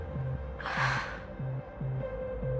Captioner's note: sighs